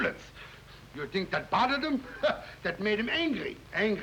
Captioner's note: chuckles